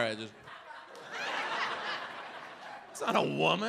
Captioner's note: audience laughs